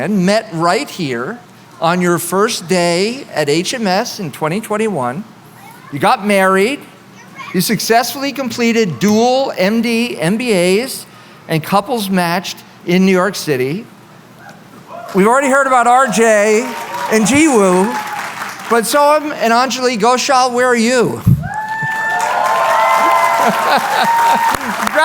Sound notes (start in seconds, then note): 21.4 cheering; 23.1 laughter